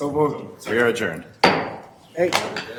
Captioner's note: gavel strike